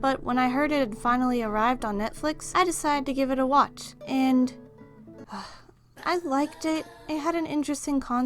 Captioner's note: sigh